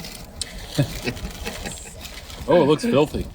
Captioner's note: giggling